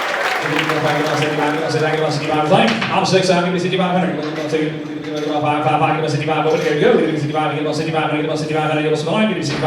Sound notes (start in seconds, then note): 1.6 auctioneer talking quickly